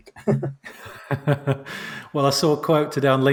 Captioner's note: laughs